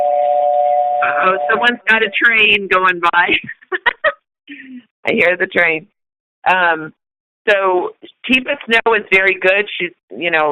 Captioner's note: chuckle